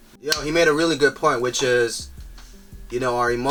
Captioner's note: claps